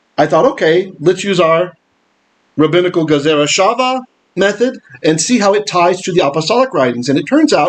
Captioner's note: Hebrew